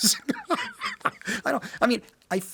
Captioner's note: Martin laughed